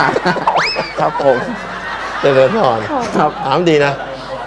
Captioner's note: laughter